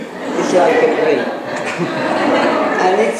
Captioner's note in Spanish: laughs